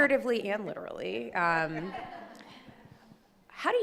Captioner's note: laughing